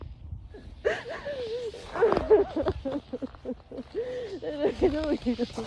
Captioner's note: sobs